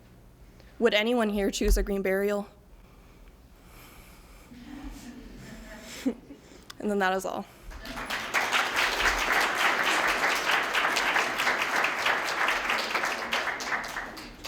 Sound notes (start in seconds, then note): 4.5 mild laughter; 7.6 applause